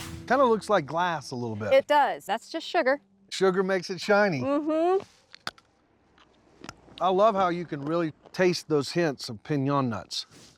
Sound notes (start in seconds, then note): 6.0 crunching